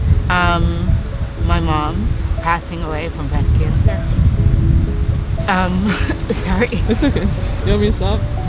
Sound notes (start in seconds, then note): 5.6 laughs